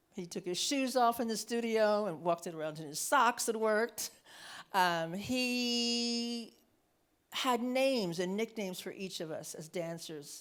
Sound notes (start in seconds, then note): none